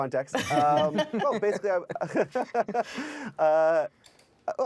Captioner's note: all laughing; laughing